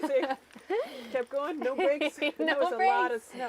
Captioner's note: laughing